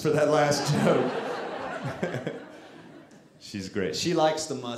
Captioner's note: audience laughing